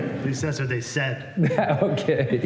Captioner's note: laughter